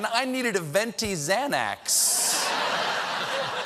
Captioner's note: laughter